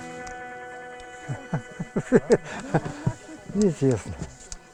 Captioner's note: laughs